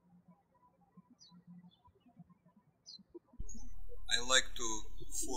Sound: birds chirping

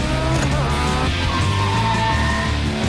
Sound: tires screeching

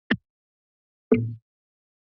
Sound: mic sound

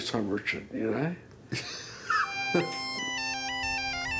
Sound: laughs; bagpipe music

